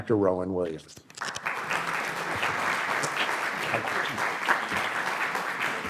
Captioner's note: audience applauding